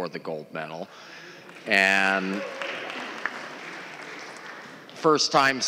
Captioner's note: applause